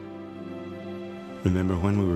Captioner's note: none